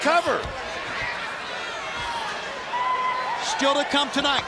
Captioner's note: crowd chatter